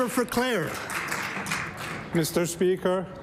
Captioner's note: applause